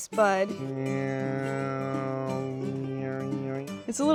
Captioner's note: imitating buzzing